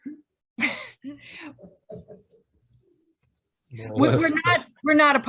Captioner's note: chuckles